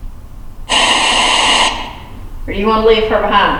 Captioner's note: static